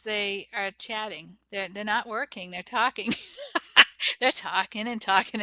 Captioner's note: laughs